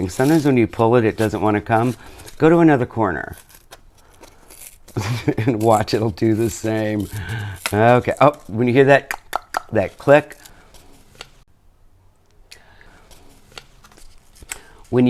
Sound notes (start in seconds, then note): 5.0 chuckles; 9.8 clicks